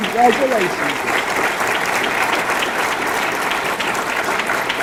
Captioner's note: audience clapping